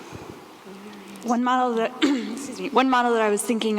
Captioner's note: clears throat